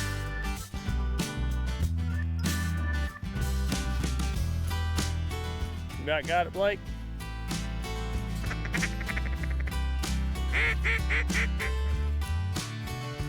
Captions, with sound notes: You about got it, Blake? (duck call quacking)